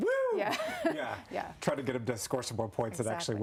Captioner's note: laughter